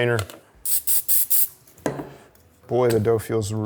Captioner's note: spray hissing